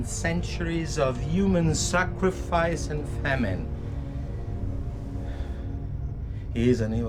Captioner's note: sighing